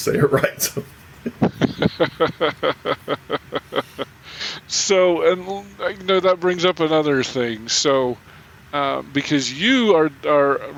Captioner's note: chuckling